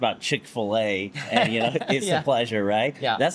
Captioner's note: laughs